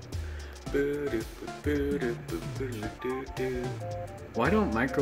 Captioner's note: humming